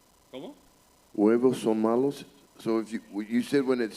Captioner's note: Spanish language